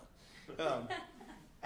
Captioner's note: laughter